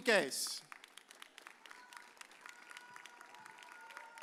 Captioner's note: audience cheers